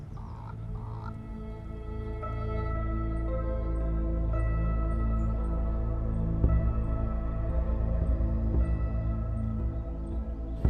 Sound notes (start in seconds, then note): 0.2 birds chirping; 2.3 gentle music; 5.0 birds chirping; 7.5 gentle music